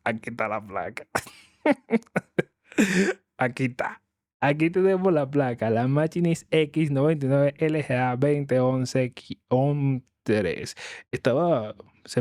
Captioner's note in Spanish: risas